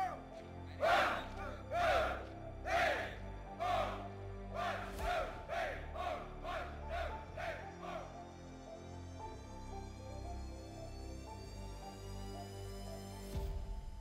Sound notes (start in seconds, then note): 3.5 soldiers chanting; 8.3 dramatic music